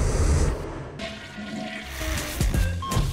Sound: toilet flushes

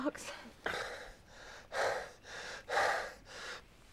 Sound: gasping

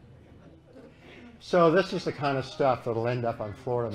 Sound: laughter

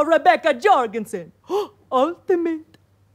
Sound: gasps

